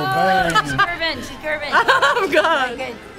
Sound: laughing

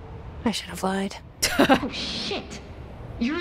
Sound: laughs

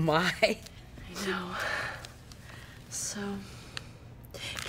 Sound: gasps; sighs

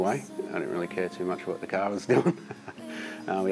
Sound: laughs

